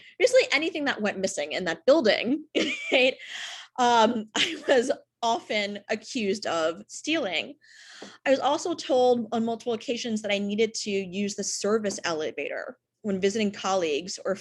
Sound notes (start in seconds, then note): 2.8 chuckles